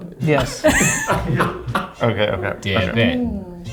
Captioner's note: laughs